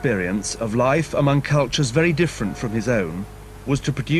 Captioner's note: bells